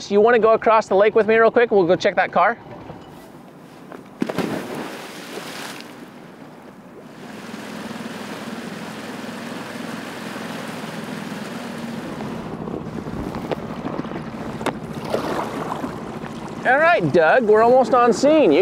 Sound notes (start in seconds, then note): 4.4 water swishing